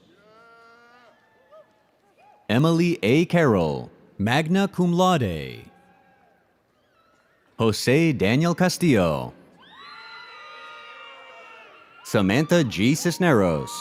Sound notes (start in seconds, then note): 6.1 audience cheers